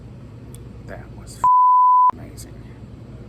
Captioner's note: lower voice